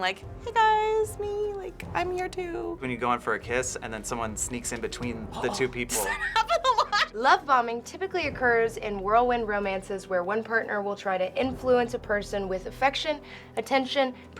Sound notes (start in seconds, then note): 5.3 laughs